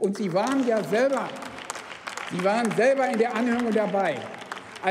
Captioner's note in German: Beifall beim BÜNDNIS 90/DIE GRÜNEN sowie bei Abgeordneten der LINKEN